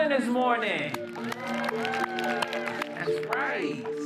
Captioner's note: louder cheering